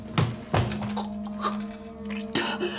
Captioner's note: feet pattering; Dorothy retching; Dorothy gasping; saliva sputtering